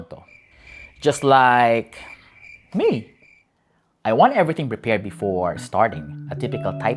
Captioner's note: cricket sound